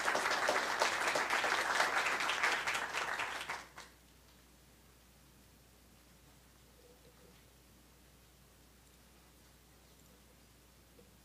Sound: applause

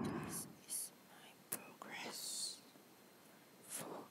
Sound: whisper

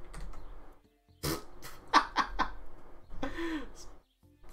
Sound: laughs

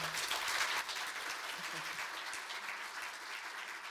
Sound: audience clapping

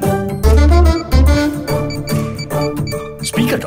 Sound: beeping

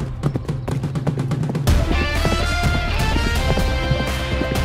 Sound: horse running

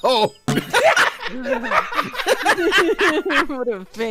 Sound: cooing and giggling; laughter

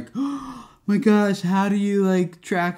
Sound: gasping

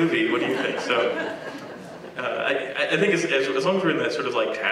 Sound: laugh

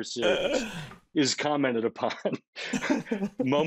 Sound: laughing

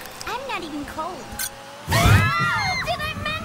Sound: squeal

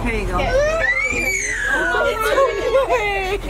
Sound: baby screaming

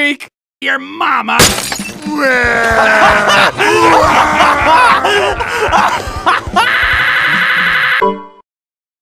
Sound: glass breaking, crying, laughing

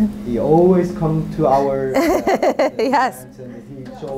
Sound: laughs

